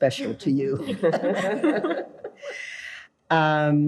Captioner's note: group laughs